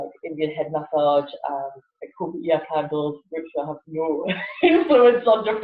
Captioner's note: laughs